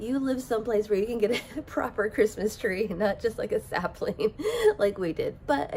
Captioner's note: laughs